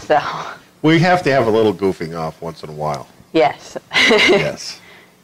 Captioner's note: laughter